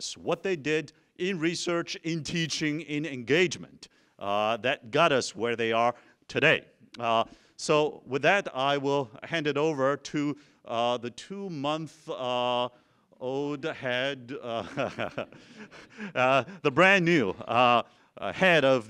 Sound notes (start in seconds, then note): 14.4 laughs